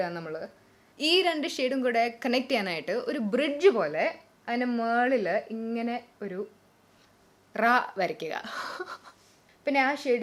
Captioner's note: chuckles